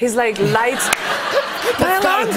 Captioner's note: laughter